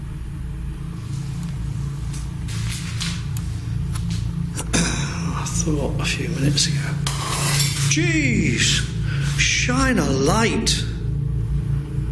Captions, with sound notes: I thought a few minutes ago. (glass breaking) Geez, shine a light!